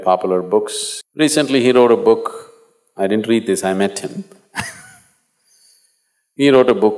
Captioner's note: laughs